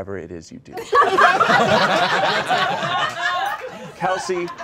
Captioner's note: all laughing